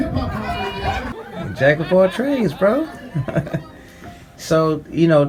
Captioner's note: laughing